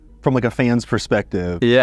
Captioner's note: none